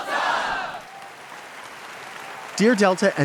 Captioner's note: audience applauds